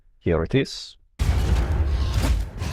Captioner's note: thumm